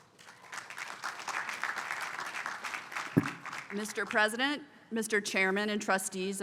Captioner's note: applause